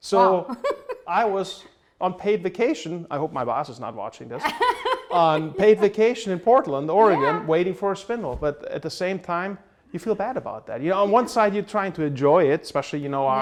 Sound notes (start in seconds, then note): 4.4 laughter